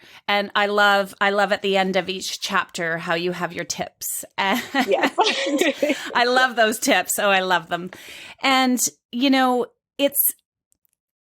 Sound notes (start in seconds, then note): 4.6 both laughing